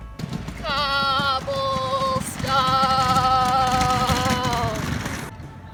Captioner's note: with a shaking voice